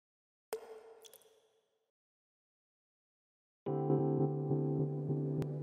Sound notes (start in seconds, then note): 0.5 water Droplets